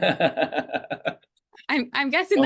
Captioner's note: laughter